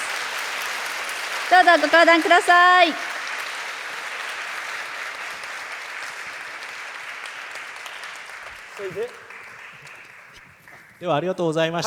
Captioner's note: applause